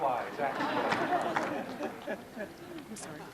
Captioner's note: laughing